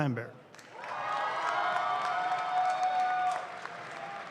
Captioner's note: audience claps